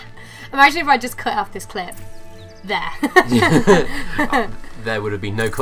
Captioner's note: laughing; both laugh